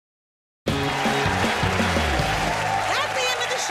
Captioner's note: cheers and applause